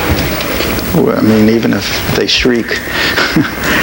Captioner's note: laughs